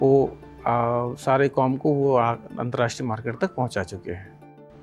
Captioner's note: speaking foreign language